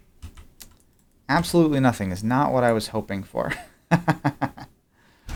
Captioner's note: laughs